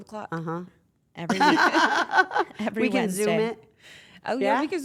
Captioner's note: laugh